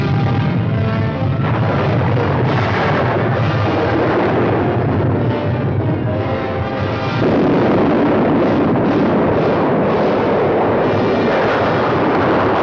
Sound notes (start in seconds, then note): 1.9 volcano exploding